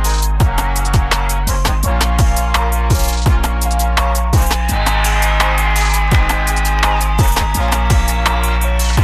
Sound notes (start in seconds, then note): 3.6 cheering